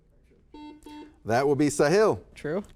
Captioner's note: buzzer buzzes